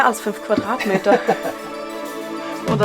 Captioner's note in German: Lachen